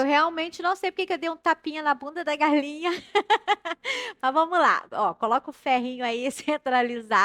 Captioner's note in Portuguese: risadas